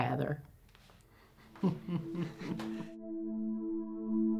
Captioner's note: laughter